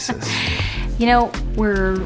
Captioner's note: laughing